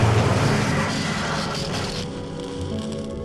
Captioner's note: fire burning, sparks flying; crackling, sparks flying